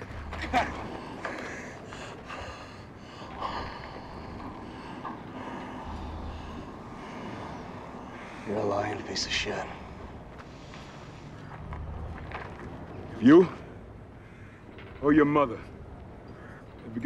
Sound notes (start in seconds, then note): 2.0 breathes heavily